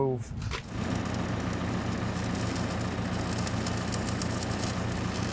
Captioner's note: engine rumbling; welder sputtering